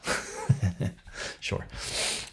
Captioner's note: laughs